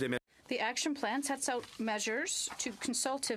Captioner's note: speaking French